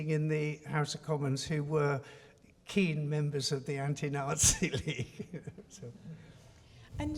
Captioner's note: laughs